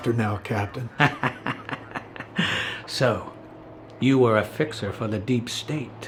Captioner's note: laughs